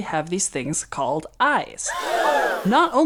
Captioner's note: gasp